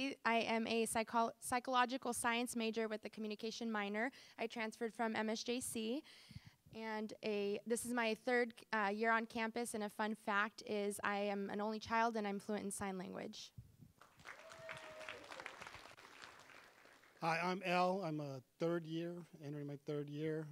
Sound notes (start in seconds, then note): 14.0 applause